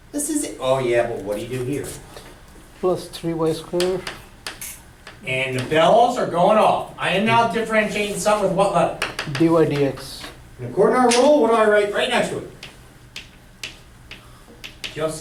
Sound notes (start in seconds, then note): 3.1 voiceover; 9.6 voiceover